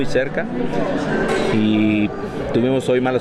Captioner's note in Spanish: voces